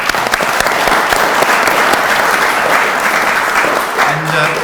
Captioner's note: audience applauds